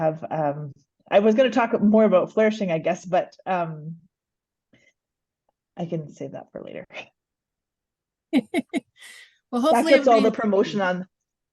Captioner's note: laughs